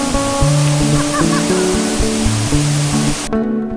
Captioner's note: laugh